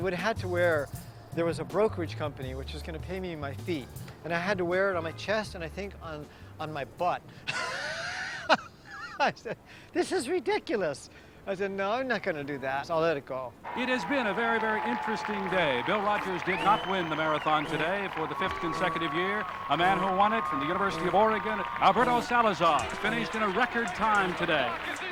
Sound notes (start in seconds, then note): 6.3 laughs; 12.6 man on TV